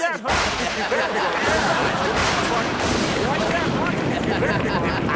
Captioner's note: thunder and lightning booms; Clouds laugh